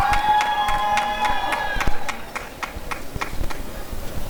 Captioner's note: applause and cheering